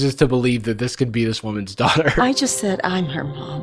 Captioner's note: chuckles